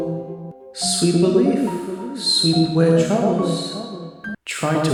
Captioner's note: echoing